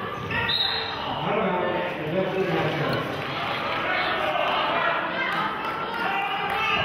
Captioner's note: whistle blows